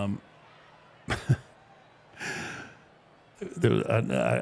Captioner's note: Mark laughing